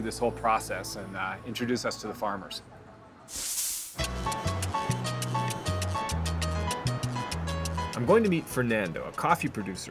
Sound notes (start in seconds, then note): 3.5 horn honking